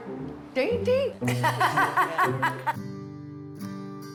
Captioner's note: laughs